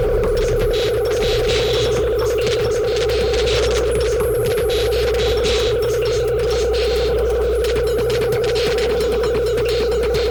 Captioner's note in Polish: Nieregularne elektroniczne uderzenia; Ciągłe, silne, oscylujące dudnienie